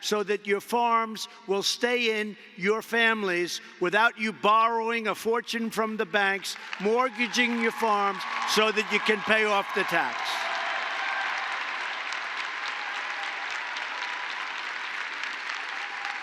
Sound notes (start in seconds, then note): 5.8 applause; 11.8 applause